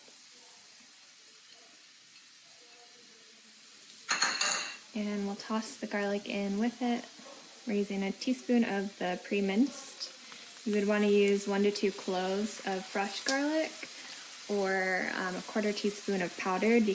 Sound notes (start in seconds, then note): 0.2 sizzling; 4.1 bowl clanging